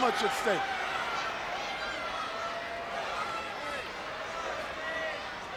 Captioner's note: crowd chattering